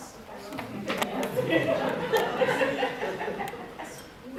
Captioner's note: audience laughing